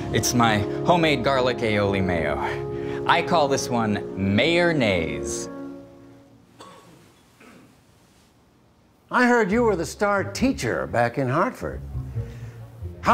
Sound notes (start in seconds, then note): 6.3 the room goes very quiet